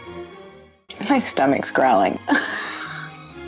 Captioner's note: laughs